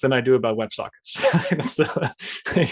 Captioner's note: laughs